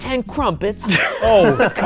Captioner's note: laughing